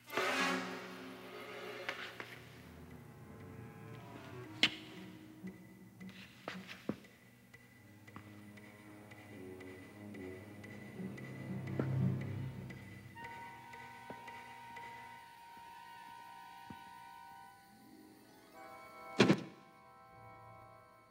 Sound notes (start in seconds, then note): 0.1 dramatic music; 4.6 toy clacking; 13.2 suspenseful music